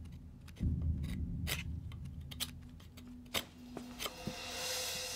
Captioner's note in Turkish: Ahşap yontma sesi